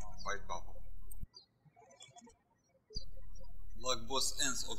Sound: birds chirping

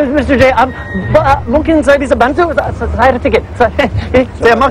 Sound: speaking indonesian

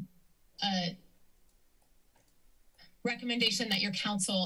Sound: silence

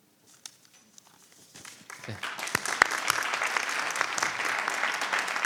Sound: audience clapping

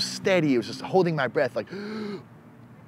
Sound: inhales

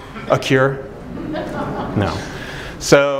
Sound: laughter

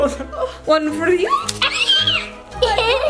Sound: child screams

